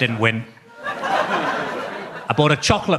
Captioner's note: audience laughs